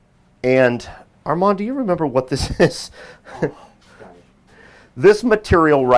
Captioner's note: laughs